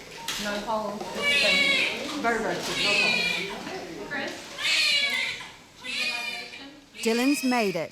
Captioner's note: baby crying